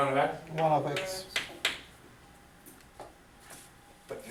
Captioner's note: voiceover